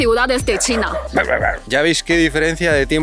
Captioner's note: edit: barks at the neighbor's dog